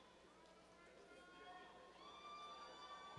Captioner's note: cheers